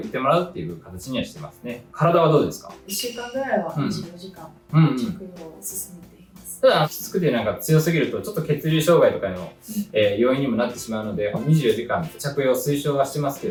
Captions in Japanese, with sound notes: 1 週間ぐらいは24[咳払い]時間 直を進めています。うん。 ただきつくてなんか強すぎるとちょっと 血流障害とかの、え、要因にもなって しまうので24時間着用推奨はしてます